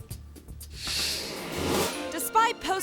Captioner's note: air whooshes